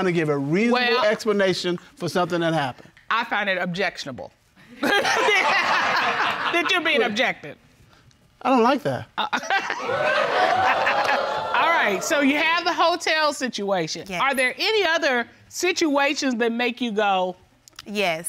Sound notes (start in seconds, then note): 4.8 audience laughing; 9.3 chuckles; 9.7 audience exclaiming